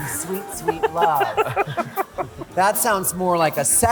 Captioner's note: laughter